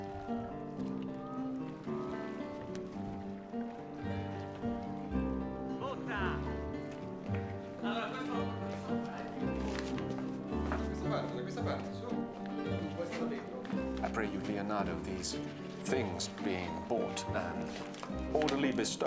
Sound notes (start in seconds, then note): 5.6 oarsman calls; 7.2 men talking in Italian